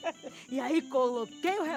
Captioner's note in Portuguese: risos